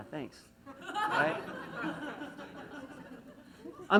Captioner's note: laughs